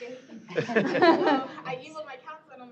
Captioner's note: laughter